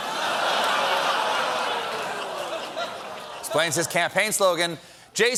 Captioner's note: laughter